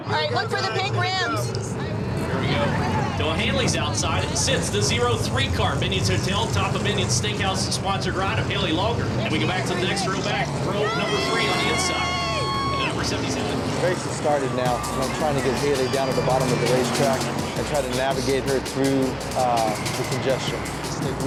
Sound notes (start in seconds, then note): 11.2 people cheering